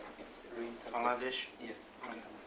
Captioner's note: non-english speech